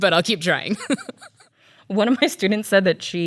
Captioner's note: laughs